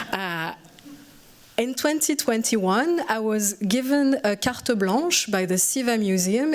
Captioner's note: french